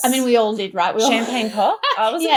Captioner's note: laughs